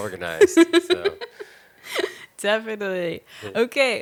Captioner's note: laughing